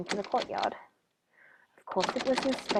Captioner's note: windows rattle